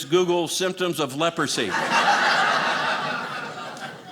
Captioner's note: audience laughing